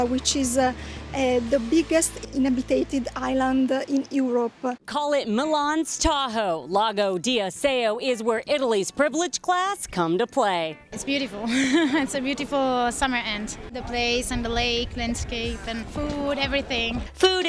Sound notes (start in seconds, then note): 11.4 laughs